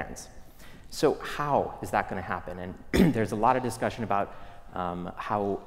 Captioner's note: cough